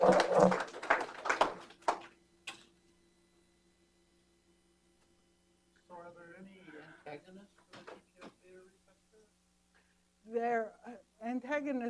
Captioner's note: applause